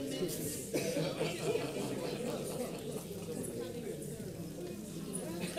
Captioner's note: audience chattering